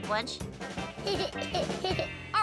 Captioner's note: laughing